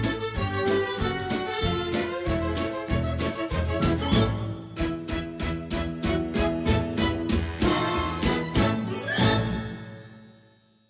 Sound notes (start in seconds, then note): 8.9 chimes